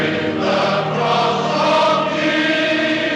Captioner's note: none